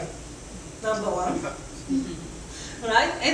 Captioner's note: audience laughs